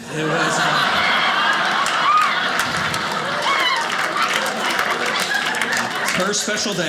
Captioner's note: audience laughing